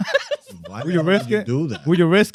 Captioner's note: laughing